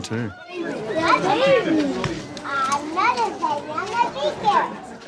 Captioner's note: children chattering happily